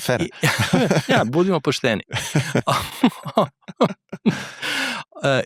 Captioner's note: laughs